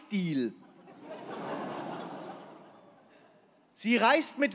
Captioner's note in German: Lachen